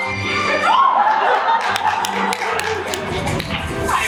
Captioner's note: audience laughs